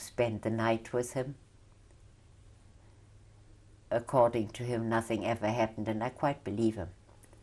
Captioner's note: pauses for 3 seconds